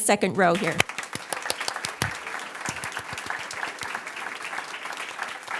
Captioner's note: audience applauds